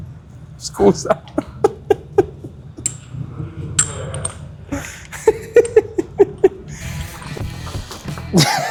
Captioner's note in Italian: risate